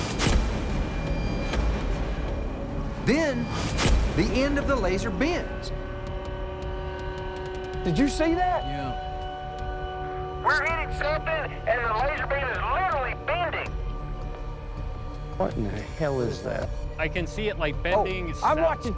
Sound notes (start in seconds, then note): 9.9 radio